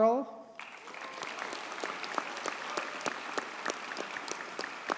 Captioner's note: audience cheers and applauds